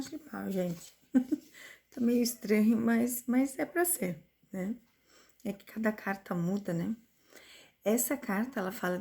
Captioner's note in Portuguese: risadas